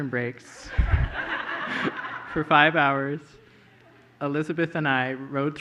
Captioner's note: laughter